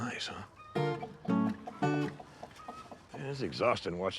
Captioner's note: chickens clucking; upbeat music